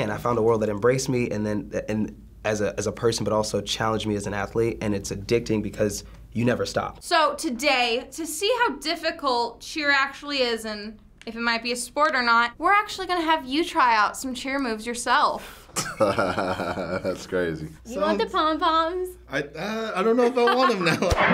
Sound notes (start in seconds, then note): 15.8 laughs